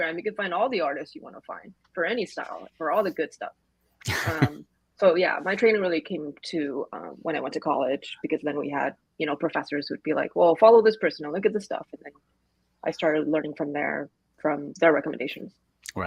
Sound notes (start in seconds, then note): 4.0 laughs